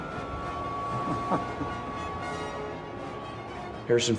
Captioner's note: Indiana chuckling